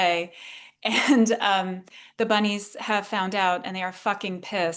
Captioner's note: laughs